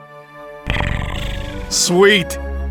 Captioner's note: Pyrasce positive growl